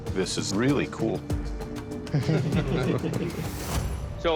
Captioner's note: laughter